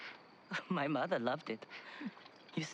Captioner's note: laugh